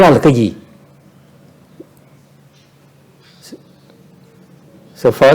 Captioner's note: silence